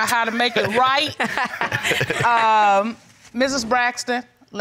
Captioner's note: laughs